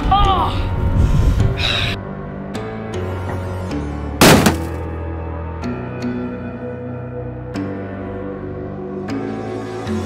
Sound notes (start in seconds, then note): 4.2 crashing; 6.3 dramatic music